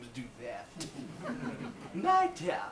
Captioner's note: audience laughs